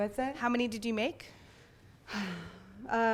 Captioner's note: voiceover